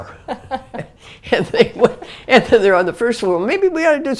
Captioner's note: laugh